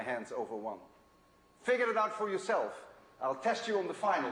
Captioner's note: none